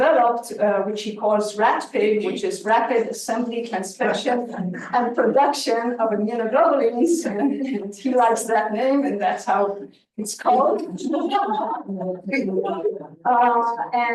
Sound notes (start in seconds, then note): 7.2 chuckles; 10.5 attendees giggling